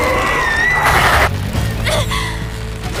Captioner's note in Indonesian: berteriak